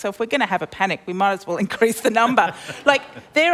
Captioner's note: laughter